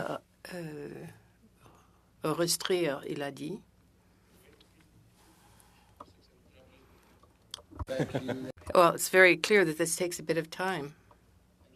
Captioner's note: speaking French